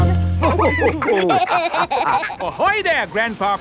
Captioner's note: all laughing